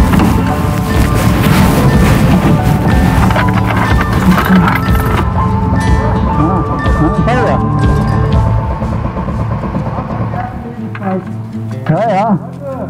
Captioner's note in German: Lachen